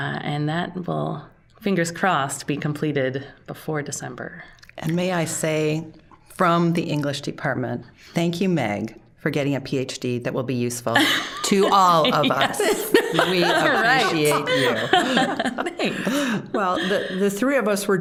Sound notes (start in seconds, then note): 10.9 laughing; 15.2 all laughing